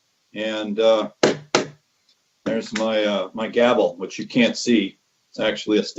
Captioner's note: gavel bangs